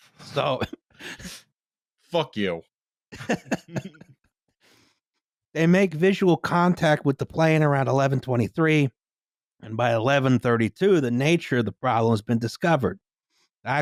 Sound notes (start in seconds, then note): 3.1 laughter